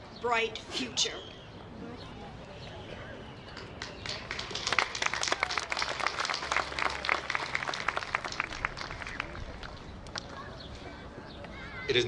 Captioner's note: applause